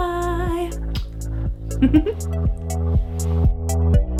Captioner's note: giggles